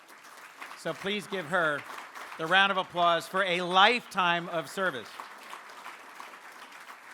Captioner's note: applause